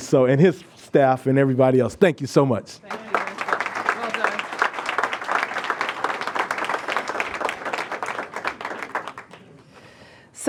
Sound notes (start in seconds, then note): 2.8 applause